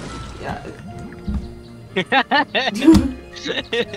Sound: laughing

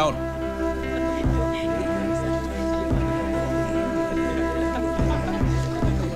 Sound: laughs

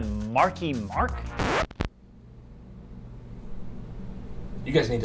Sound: record scratch

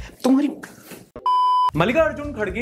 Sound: beep

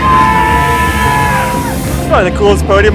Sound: spectators cheering; water misting

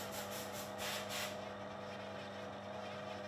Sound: sanding noises

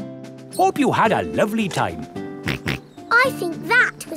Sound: snorts

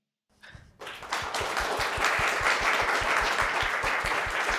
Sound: audience applauds

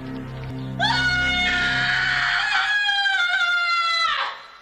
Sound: end of movie scream

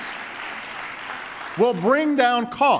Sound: applause

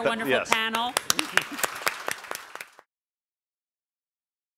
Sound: applause

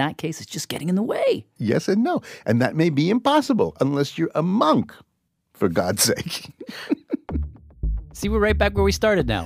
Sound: laughs

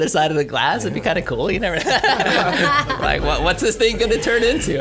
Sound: laughs

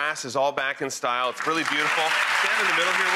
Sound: applauding

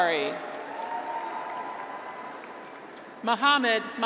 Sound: graduates cheer

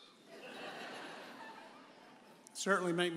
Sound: audience laughs

